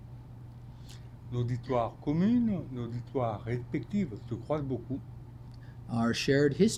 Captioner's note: speaking French